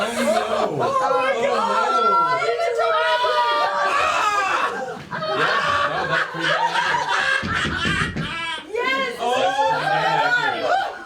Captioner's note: laughter